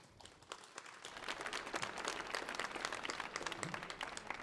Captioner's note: audience applauding